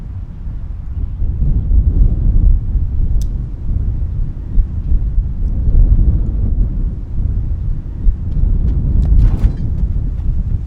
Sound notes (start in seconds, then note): 1.6 wind howling continues; 7.5 footsteps crunching